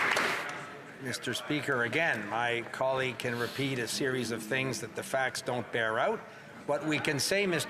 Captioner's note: some Applause